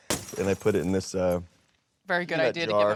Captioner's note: glass shattering